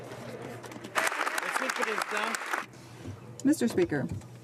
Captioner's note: some Applause